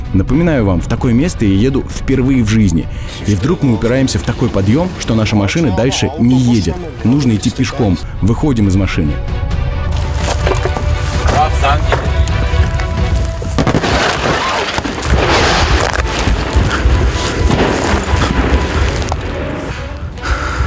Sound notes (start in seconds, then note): 13.5 explosions; 13.7 dramatic music